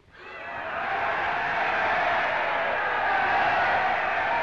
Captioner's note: crowd cheering